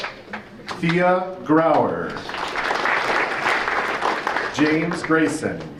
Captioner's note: audience applauding; audience applauding